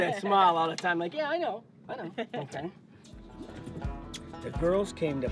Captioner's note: laughing